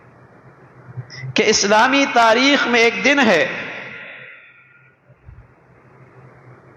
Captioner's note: sigh